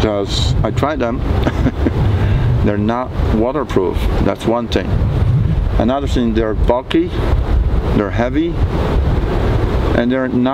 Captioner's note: laughing